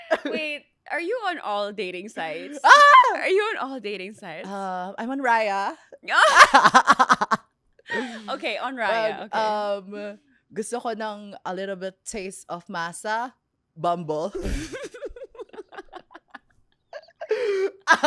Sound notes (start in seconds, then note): 0.0 laughs; 6.1 laughs; 14.4 laughs